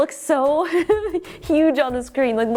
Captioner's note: giggles